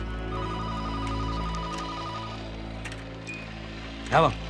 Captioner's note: telephone ringing